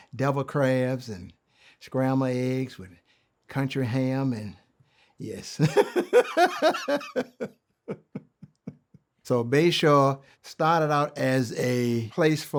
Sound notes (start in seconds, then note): 5.6 chuckles